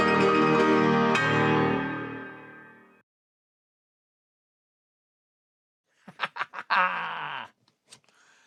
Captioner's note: upbeat Music; laughing